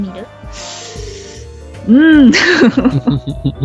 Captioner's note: deep breathes